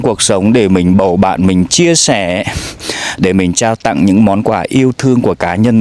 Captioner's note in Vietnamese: khịt mũi